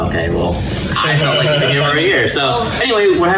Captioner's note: laughing